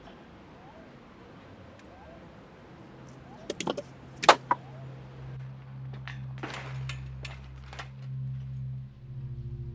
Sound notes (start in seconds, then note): 3.4 tin clatters